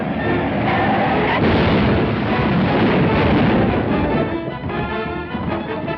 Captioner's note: crash; fast-paced music